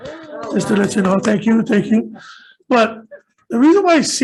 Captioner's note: all cheering